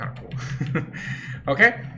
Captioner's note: chuckles